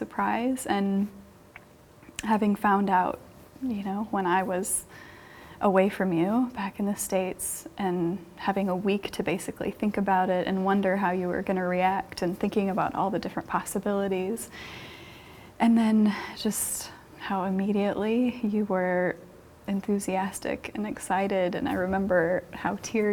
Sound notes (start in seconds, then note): 14.5 deep breath